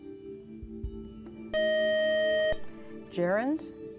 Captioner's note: buzzer